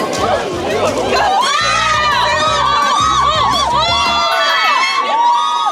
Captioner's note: screaming